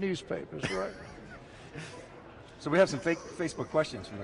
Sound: laughs

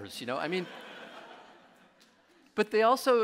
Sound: audience laughing

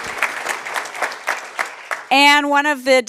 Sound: applause

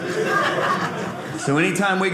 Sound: audience laughing

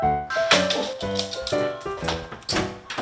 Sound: door unlocking sound

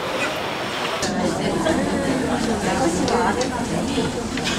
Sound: soft but lively chatter in museum cafe

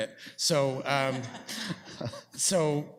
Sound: laughter

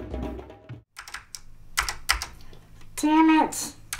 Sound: keys clacking

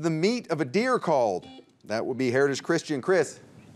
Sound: buzzer beeps

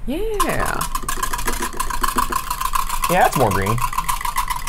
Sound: whisk clattering; whisk clattering continues

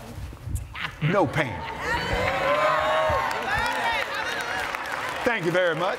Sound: cheers & Applause

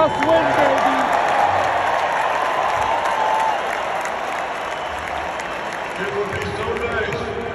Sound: applause

